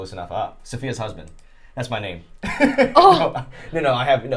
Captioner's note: laughing